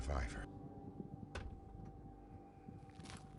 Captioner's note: thud